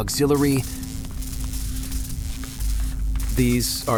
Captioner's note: faint electric sparking